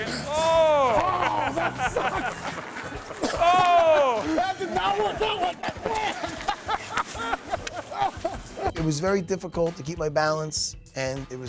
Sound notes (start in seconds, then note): 2.7 laughing; 6.3 laughing